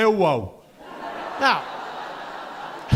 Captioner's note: audience laughing